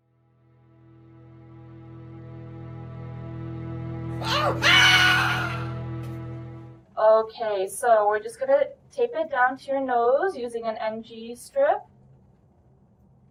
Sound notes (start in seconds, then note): 0.4 ominous music; 4.2 screaming